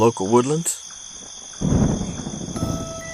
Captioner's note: thunder rolls